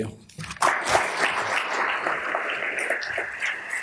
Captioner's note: audience applauds